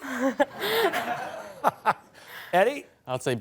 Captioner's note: laughter